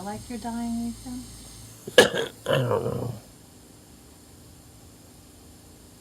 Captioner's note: coughing